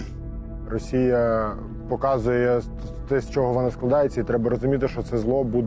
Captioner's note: in Ukrainian